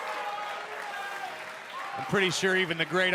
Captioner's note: crowd chatter